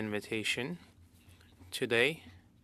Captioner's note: speaking French